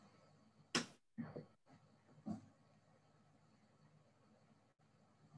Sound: keyboard clicking

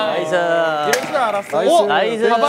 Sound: crashing

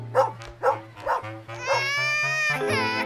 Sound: baby crying

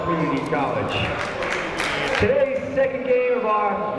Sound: clapping

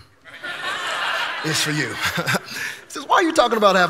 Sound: congregation laughing; chuckles

